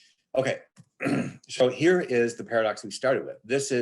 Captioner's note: clears throat